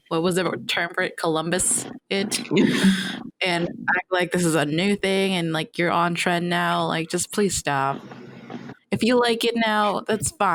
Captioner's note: laughter